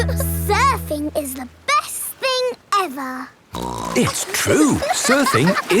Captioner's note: giggle; snorts